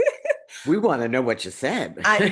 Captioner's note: laughs